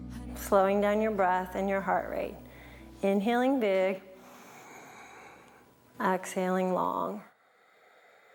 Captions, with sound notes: Slowing down your breath and your heart rate. Inhaling big (breathes), exhaling long.